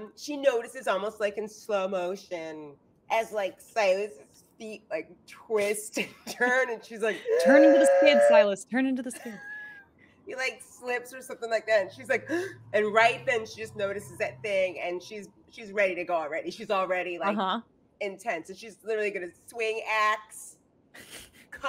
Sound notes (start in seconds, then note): 7.6 gasping; 12.3 gasping